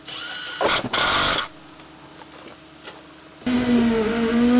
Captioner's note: machine revving